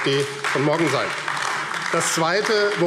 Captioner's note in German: Beifall AfD